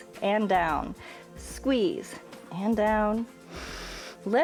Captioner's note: inhales